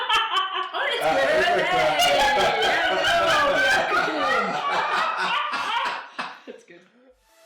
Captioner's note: laughs; laughter and cheering downs out speech